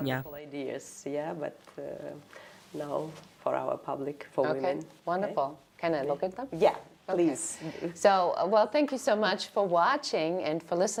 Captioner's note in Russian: Разговаривают на английском